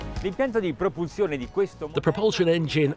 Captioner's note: speaking in foreign language